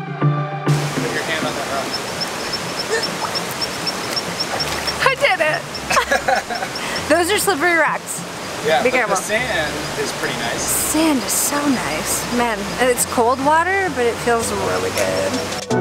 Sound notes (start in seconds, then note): 0.7 rushing river; 4.3 laughs; 15.6 upbeat music